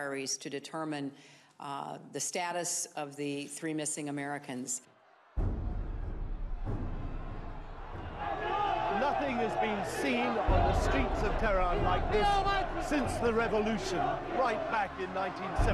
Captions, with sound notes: the status of the three missing Americans. (dramatic music) (yelling) - Nothing has been seen on the streets of Tehran since the revolution, right back in 1979